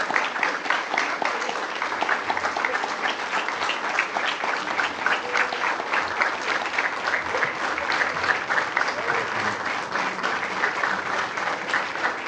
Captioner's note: applause